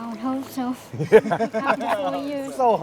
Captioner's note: all laughing